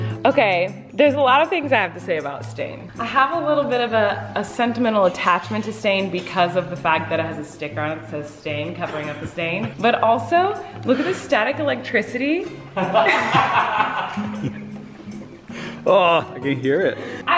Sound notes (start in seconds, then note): 12.7 laughing